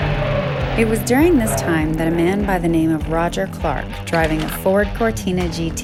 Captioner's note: film projector rattles